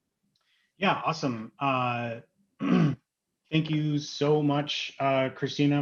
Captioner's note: clears throat